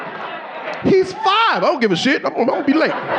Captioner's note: audience laughing